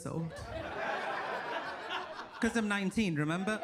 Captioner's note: audience laughs